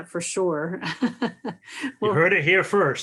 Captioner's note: laughs